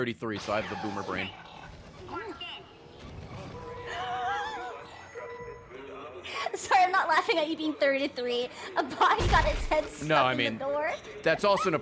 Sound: laughs

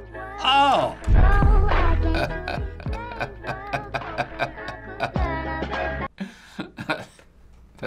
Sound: chuckles

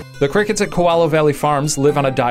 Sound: voiceover

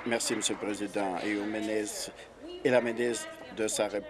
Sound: applause

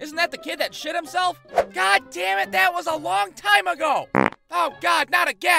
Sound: farts

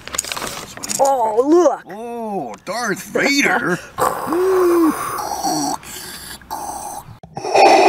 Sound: Darth Vader hissing

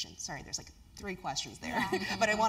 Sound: laugh

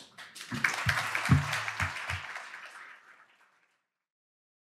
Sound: audience applauding

